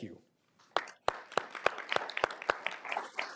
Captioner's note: applause